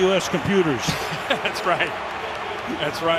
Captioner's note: laughing